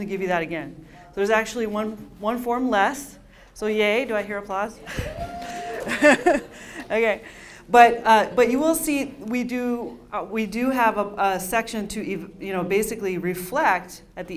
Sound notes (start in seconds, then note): 4.9 laughs